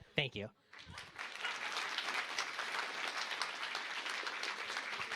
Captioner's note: applause